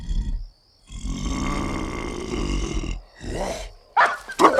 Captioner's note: Harry growling; dogs barking